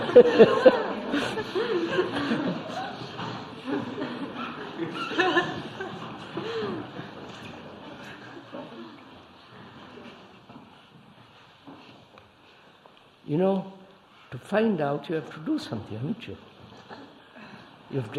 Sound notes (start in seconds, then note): 2.9 laughter; 11.5 laughs